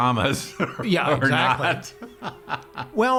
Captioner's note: laughs